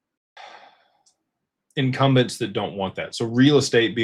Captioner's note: sighs